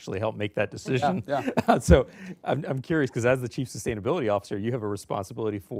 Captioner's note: laughter